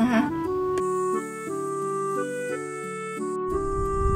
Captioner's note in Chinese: 吹海風